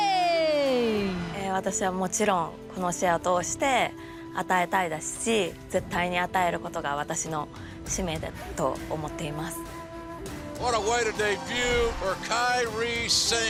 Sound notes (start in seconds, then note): 3.4 speaking japanese